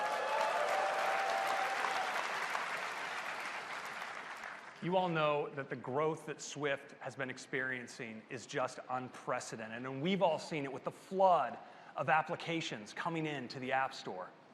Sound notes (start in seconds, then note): 0.0 applause; 4.2 cheers and applause